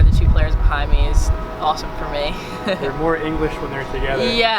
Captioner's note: laughs